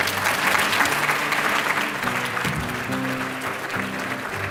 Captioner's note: applause